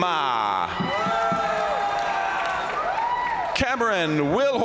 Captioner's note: crowd cheering; crowd applauding